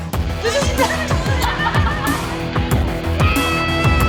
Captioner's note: laughs